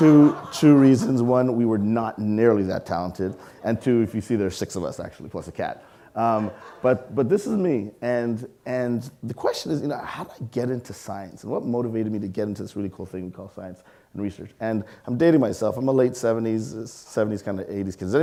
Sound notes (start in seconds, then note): 6.2 audience laughing